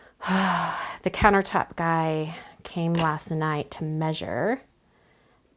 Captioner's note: sighs